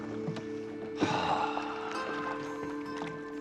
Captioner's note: sighing